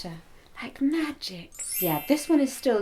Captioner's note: twinkling SFX